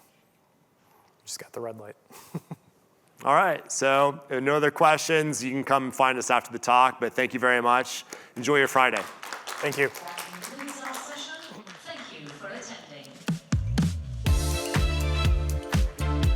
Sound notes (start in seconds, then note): 11.2 applause